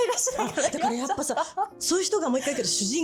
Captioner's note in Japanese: 笑い